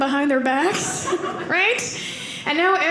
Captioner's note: audience laughing